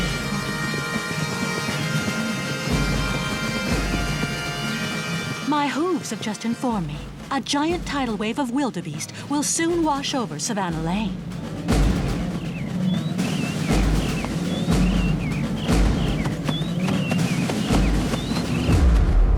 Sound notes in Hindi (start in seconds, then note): 12.6 चहचहाते पक्षी